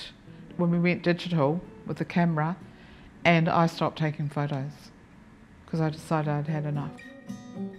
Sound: none

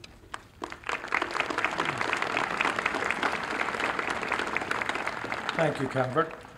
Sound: applause

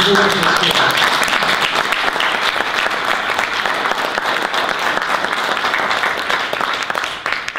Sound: audience applause

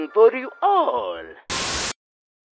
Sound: tape ends

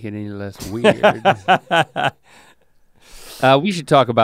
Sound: laughs

